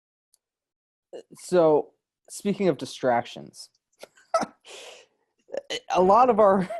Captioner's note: laughs